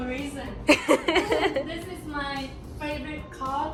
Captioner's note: laughing